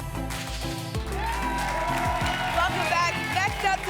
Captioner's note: applause and cheering